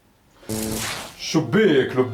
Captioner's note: whoosh